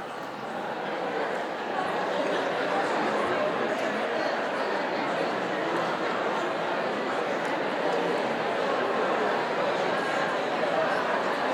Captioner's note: conversation among the audience